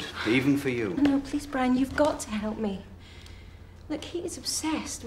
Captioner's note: sighs